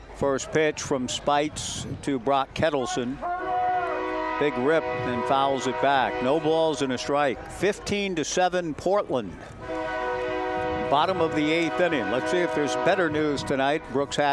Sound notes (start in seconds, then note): 9.6 train whistle blowing